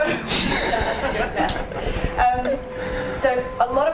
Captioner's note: laughing